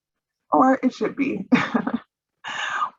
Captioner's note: chuckles